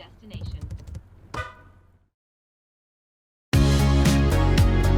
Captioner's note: fists drumming; car horn beeping; outro music